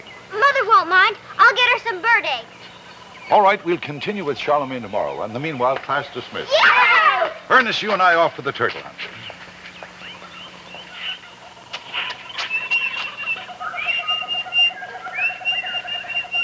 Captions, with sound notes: - Mother won't mind! I'll get her some bird eggs. - All right, we'll continue with Charlemagne tomorrow. In the meanwhile, class dismissed. (kids cheer) Ernest, you and I are off for the turtle hunt. (wildlife chittering)